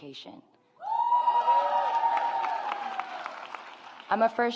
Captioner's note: audience applauds